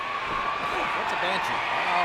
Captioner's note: audience cheering